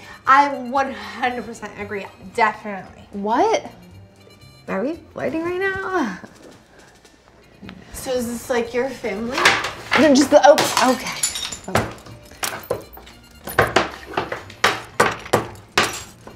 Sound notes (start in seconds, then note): 9.2 frame scratching desk; 10.5 picture frame shatters; 11.9 banging frame on desk